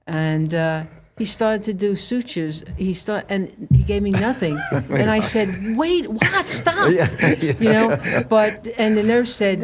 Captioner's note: laughhter